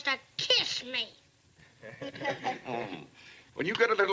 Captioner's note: laughter